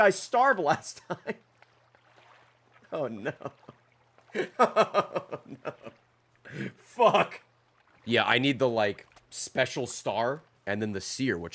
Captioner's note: laughs; laughs